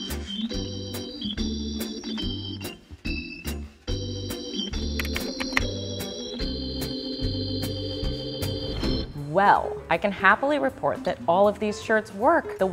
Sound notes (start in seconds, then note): 4.9 text clicking